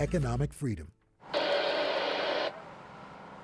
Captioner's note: radio static